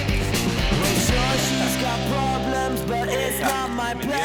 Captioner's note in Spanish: Clic de la cámara